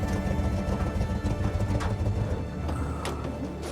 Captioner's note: engine turns off